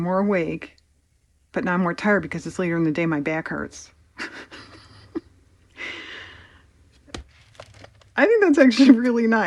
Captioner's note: laughs